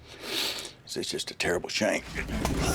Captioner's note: clamoring